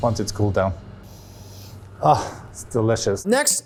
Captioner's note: sniffs